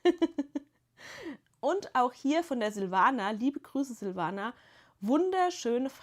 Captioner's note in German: gelächter